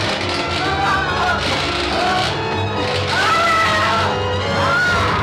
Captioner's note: Krenner screaming